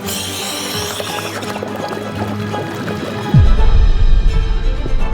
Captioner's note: oxygen whistling; water burbling